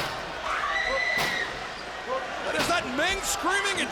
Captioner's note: screaming